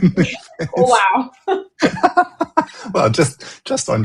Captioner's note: laughter